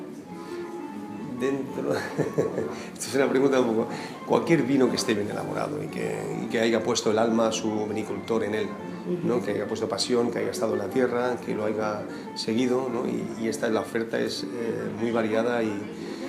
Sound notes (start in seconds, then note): 1.9 laughing